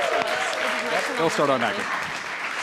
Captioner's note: applause